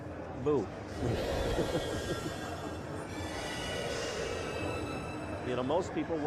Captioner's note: laughs